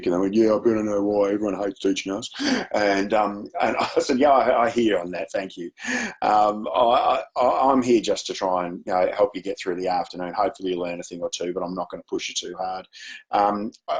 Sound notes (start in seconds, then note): 2.2 chuckles